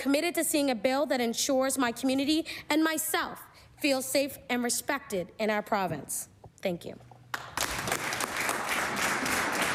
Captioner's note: applause